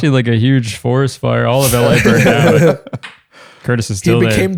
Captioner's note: laughter